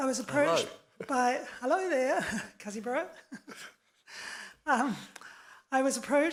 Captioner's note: speaks in foreign language